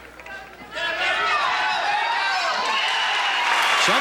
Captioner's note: cheering